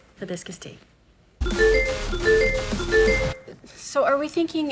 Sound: notifications ping frantically

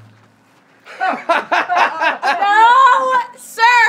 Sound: laughter

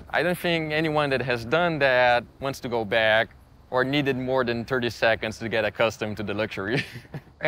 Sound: laughs

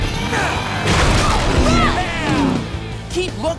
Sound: cheering

